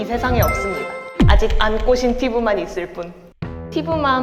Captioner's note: confident, bold sound effect